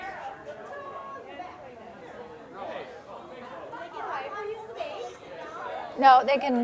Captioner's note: general chatter